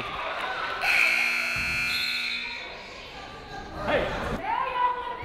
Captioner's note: whistle, buzzer